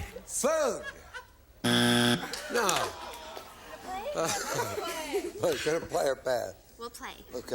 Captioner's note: buzzer